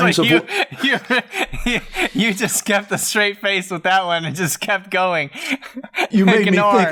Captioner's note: laughs